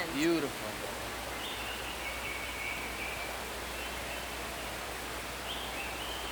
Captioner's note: birds chirp, water sloshes